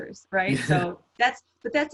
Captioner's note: laughs